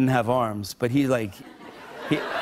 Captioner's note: laughter